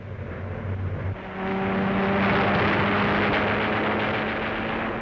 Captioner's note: loud plane engine